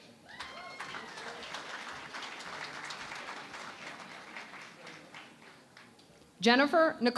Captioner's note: cheering and Applause